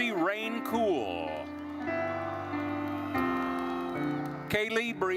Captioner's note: gentle music continues; attendees cheering